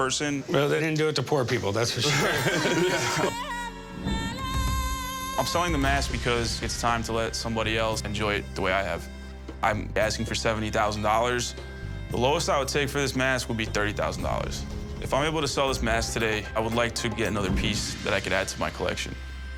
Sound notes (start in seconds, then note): 1.9 laughing